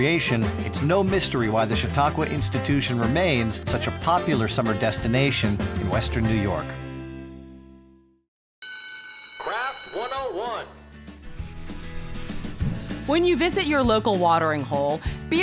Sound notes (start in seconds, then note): 8.6 bell ringing